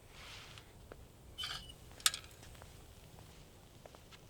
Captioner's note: kickstand creaks